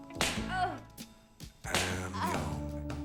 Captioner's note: smack